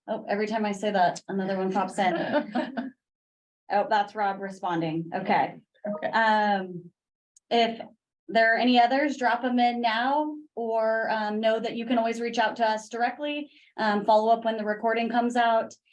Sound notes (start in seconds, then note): 2.3 group laughing; 6.6 notification dings